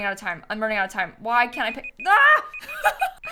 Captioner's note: timer beeping